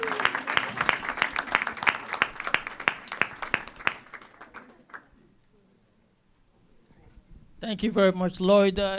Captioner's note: cheers and applause